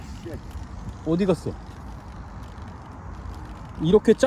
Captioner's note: propeller